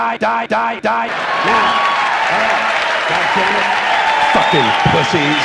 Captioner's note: audience cheers; cheering continues